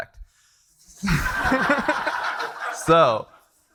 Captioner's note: attendees laughing